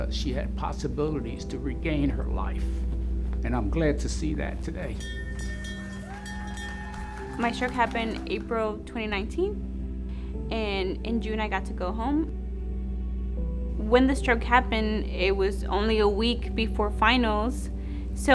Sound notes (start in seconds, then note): 4.9 bell rings; 5.1 people clapping; 5.3 people cheering